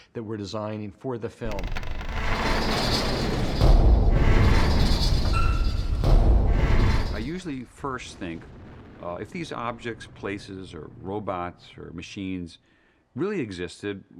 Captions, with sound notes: that we're designing for the film. (METALLIC RUMBLING) (THUDDING) I usually first think, if these objects, places, or robots, or machines really existed,